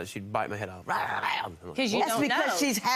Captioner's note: snarling